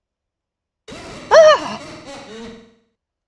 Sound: Sonic.EXE laugh

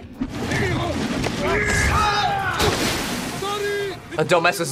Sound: both grunting

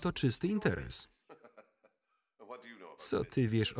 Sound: laughing

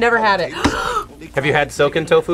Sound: gasps

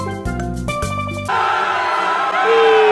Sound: all Screaming

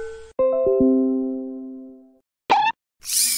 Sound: Windows 10 Error Noise

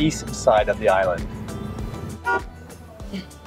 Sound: car honk

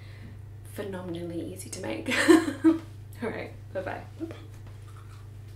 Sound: laughs

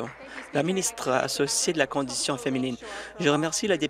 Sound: applause

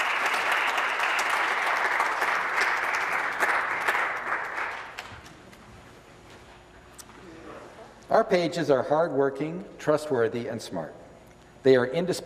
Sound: applause

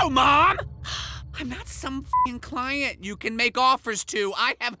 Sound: beep

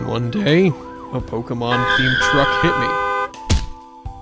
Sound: honks, tire screeches, slam!

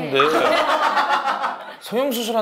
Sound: bwhahaha

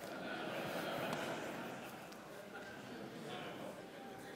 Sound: laughter

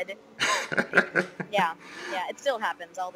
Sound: laughing

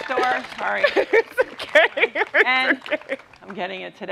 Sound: laughs

